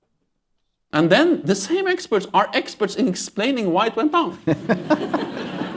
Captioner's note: laughter